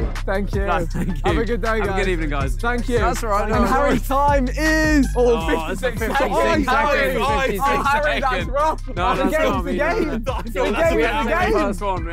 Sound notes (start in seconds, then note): 5.1 indistinct chattering